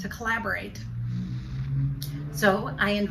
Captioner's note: car engine revving